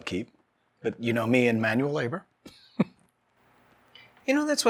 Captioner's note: chuckling